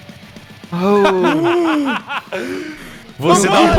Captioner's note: laughs loudly